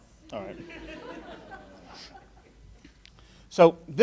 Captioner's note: laughing